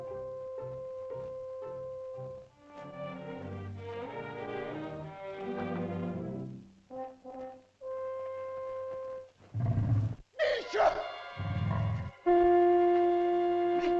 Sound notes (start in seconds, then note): 0.0 whimsical music; 9.5 dinosaur growls; 10.3 man cries out; 10.9 shell toots; 13.8 man speaks in caveman language